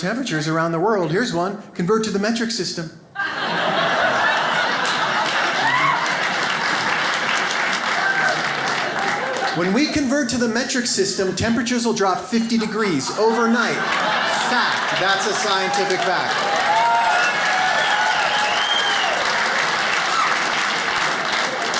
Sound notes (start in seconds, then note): 3.2 audience cheers; 16.6 audience applauding